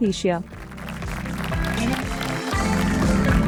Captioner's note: audience applauding; bright music